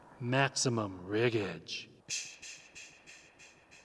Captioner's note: shushing